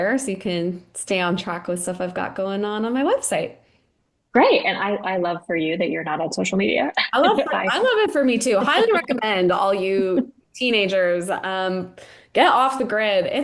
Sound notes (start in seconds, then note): 7.0 laughing